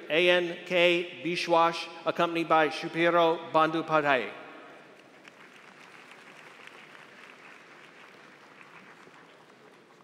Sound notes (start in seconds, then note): 4.8 applause